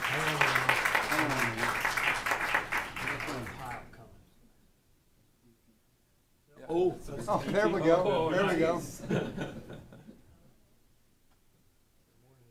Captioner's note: applause